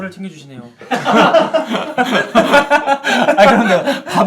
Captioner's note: laughing